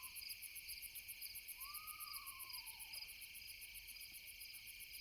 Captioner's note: owl hooting